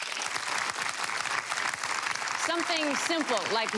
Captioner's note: audience applause